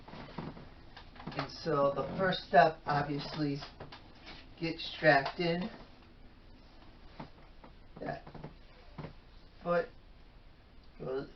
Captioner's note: rattling of metal brackets